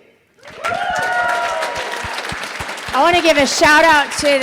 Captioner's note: audience applauding